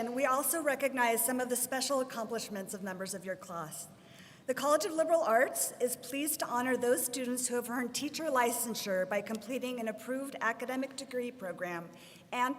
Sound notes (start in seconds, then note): none